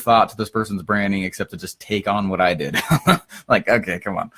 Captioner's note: laughs